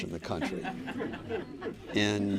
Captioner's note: laughter